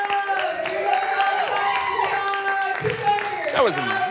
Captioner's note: audience cheering